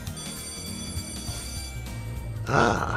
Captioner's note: another Japanese School bell sound